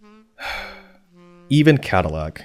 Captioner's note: sigh